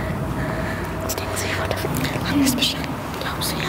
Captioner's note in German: Sie flüstern